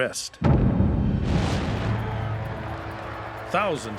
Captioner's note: crowd shouting